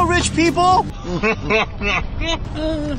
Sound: maniacal laugh

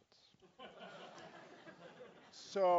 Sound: laugh

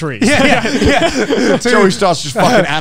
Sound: all laughing

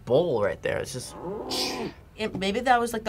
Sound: bull moos

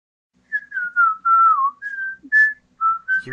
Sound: Garbageman-senpai whistling Kesha's "DieYoung"

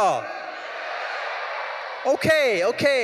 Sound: audience cheering

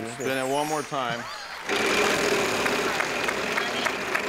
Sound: crowd clapping

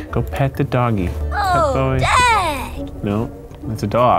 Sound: Avatar speaking Simlish

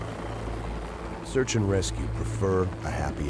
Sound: voiceover

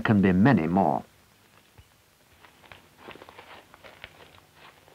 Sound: footsteps

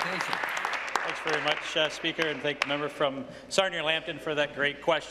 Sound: applause

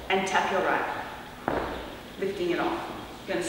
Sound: foot tap

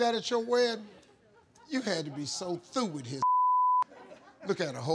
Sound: beep

